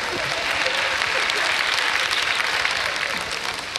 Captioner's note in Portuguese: aplausos da plateia